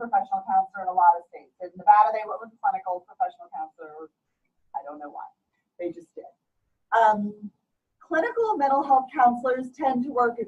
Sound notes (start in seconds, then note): none